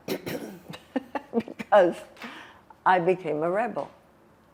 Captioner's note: laughing